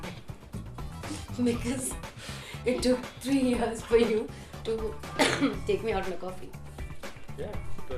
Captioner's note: laughing